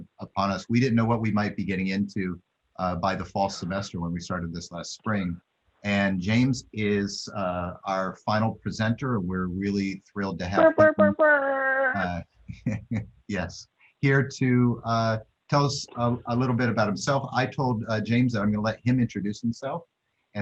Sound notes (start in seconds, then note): 11.0 mouthed trumpet sound; 12.6 laughter